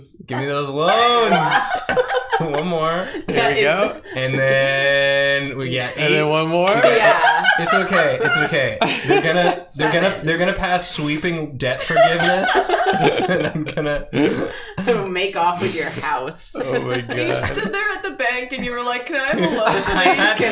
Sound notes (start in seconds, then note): 0.4 everyone laughs; 6.7 laughs hysterically; 14.1 laughs; 14.2 wheezes